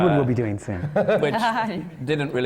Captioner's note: laughs